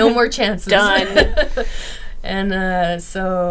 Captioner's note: laughing